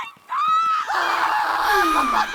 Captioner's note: Asuna shrieks; Griselda sighs; Kirito screams